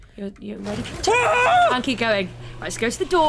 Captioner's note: guttural scream